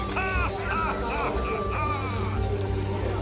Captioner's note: drunk laughter